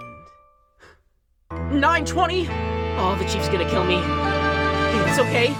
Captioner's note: gasp